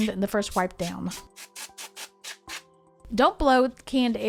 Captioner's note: canned air spurting